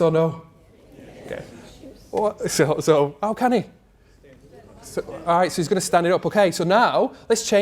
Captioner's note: crowd: Murmurs